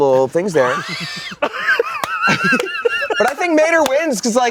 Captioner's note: everyone laughs